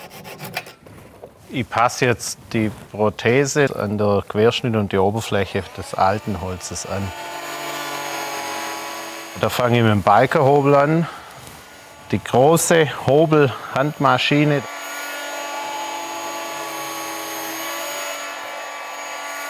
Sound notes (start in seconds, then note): 7.4 whirring; 14.8 continuous whirring